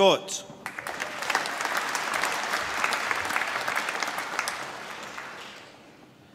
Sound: applause

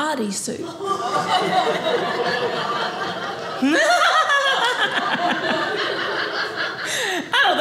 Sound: audience laughing

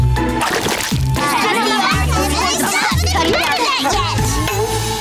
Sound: chattering

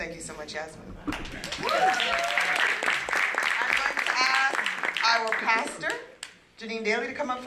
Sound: applause

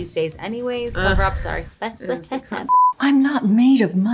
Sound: beep

